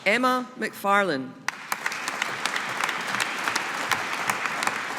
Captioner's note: audience applauding